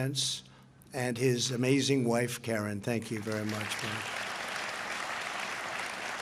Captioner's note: applause